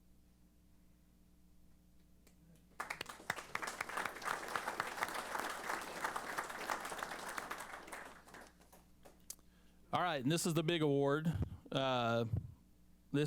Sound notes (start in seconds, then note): 2.6 applause